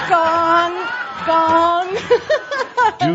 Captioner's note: lots of laughter